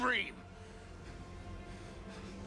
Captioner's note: breathing heavily